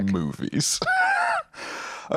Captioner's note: laughs